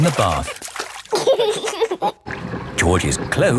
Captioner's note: giggling